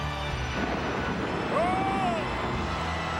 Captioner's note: ominous music continues; thunder rumbles; audience cheers